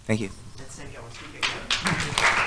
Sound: applause; clapping

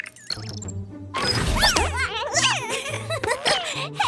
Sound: laughs

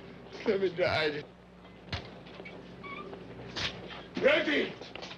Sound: gurney wheels squeaking

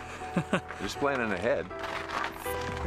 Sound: cameraman chuckles

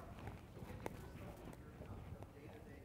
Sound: off microphone

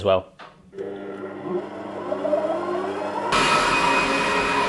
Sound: mixer whirs

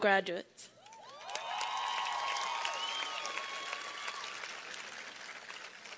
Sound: cheers and applause

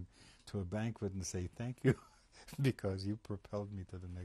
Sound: laughs

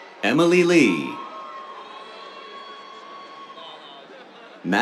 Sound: cheers

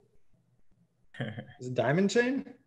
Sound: chuckles

